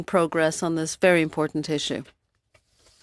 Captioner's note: speaking French